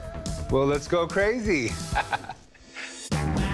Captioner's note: laughs